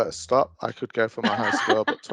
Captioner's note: laughing